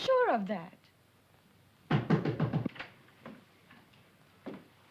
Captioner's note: knocking